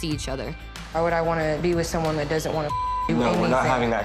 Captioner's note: beep